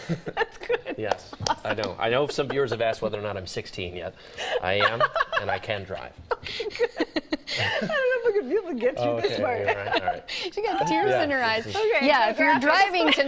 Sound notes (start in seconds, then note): 10.8 laughter